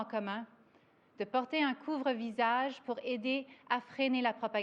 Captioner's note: speaks French